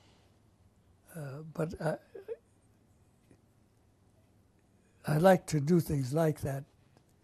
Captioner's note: pauses for 3 seconds